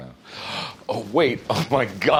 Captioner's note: gasps